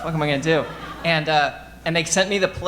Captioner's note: audience laughing